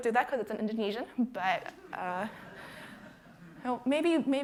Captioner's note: audience laughing